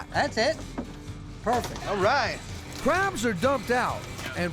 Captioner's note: none